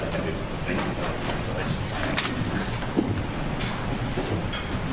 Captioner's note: background chatter